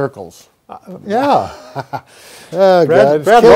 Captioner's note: chuckling